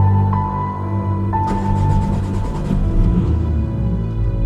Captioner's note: engine starts